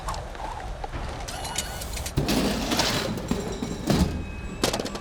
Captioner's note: robot whirring; car parts clattering